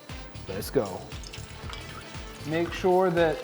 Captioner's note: cooking oil sizzles